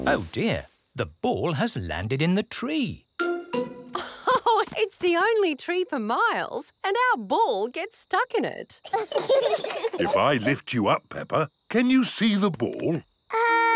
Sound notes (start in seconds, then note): 4.0 laughs; 8.8 children laugh